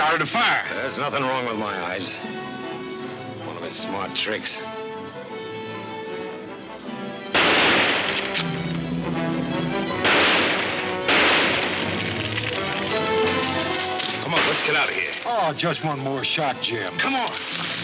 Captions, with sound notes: - There's nothing wrong with my eyes. One of his smart tricks. (gunshots banging) - Come on, let's get out of here. - Aw, just one more shot, Jim. - Come on.